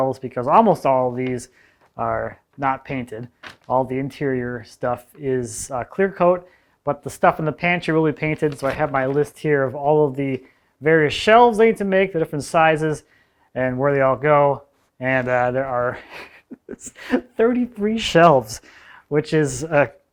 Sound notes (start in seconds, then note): 15.9 laughs softly